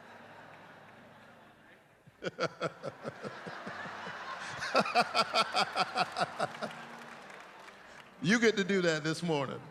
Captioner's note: laughter